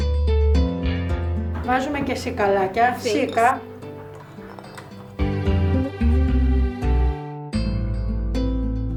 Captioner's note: speaking Greek